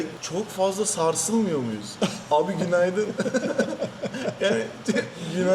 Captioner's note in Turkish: kahkaha